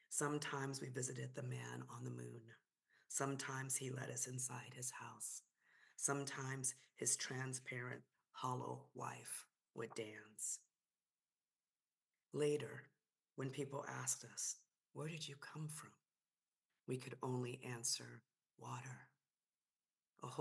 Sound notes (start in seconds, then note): none